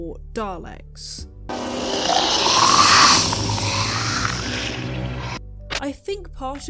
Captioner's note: growling noises